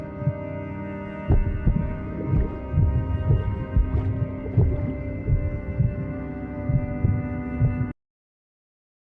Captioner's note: heartbeating